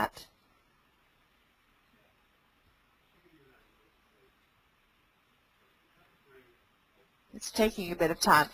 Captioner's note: silence